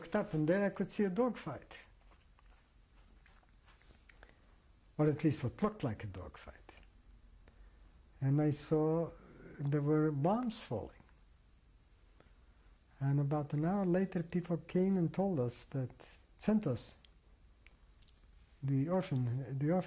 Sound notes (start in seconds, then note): 1.5 pauses for 3 seconds